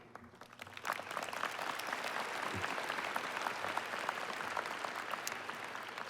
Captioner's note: applause